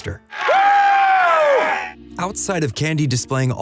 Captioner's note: whooping